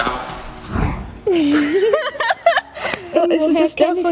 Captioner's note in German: Lautes Lachen